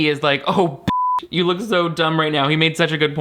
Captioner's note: beep